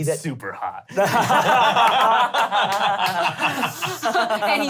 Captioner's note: laughter